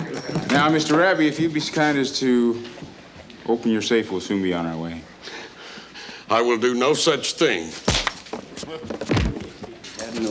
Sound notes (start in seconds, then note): 0.0 gang members chuckle; 7.8 body thumps; 7.8 fist thuds